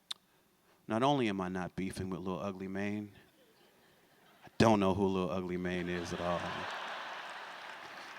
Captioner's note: laughter